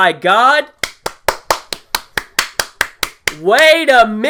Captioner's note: round of applause